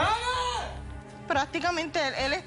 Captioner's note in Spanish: grito